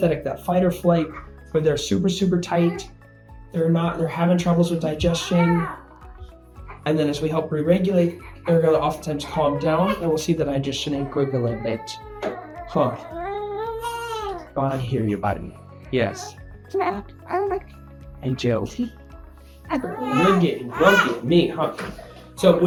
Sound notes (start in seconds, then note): 13.2 baby crying